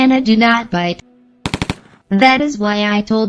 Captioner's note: turret shooting